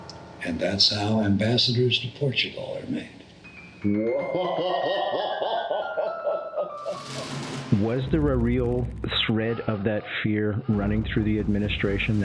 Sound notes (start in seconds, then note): 4.0 interviewer laughs